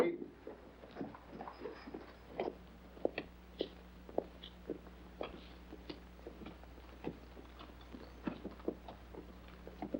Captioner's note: bodies shuffling out